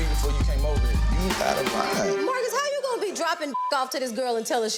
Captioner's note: beeps